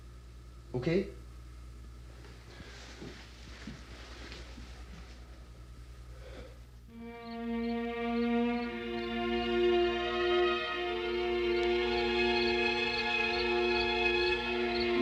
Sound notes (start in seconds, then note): 6.7 insects chirping; 7.0 foreboding instrumental music